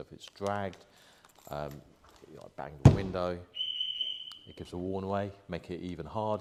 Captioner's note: beep beep beep